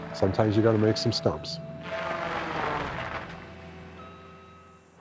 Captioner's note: tree saw cutting stump